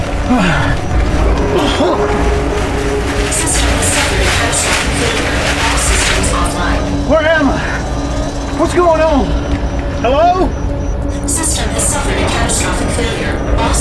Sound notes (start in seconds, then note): 0.0 Hawk coughs; 0.1 Hawk groans